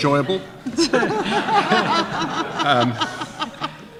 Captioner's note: laughter